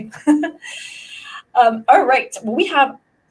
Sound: laughs

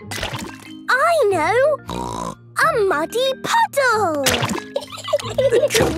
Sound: laughing

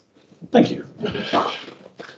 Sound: muffled applause

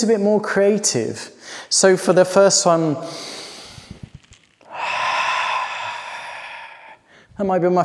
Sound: inhales and sighs releasing the breath

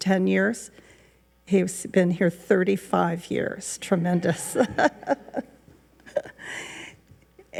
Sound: laughs

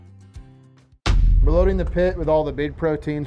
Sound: text thuds

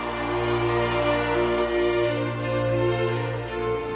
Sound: people cheering

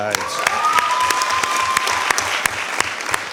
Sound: cheering

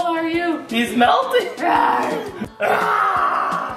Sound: yells; roars

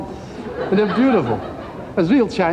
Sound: crowd laughing

